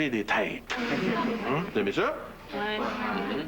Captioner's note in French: Les jeunes rigolent